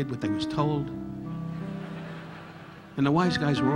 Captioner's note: audience laughing